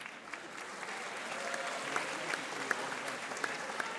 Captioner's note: audience applauding